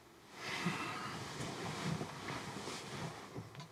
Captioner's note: Isaac sighs